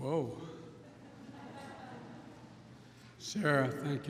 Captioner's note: laughter